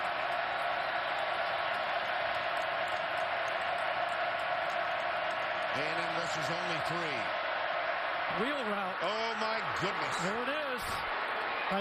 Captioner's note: crowd noise